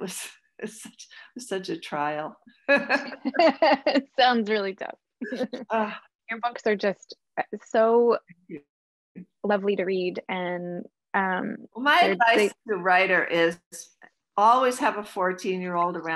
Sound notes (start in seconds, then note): 2.7 giggles